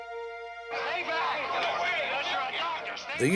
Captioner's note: shouting